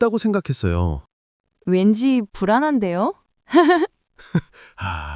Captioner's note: chuckles